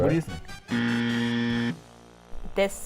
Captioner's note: buzzer